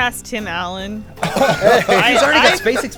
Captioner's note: laughter